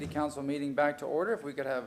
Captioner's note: sounding gavel